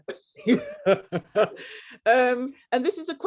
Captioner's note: women laughing